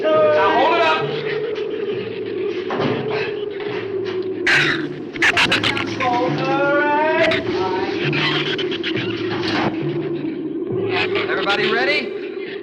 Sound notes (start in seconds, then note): 4.4 shrew snarls; 9.3 drums clunk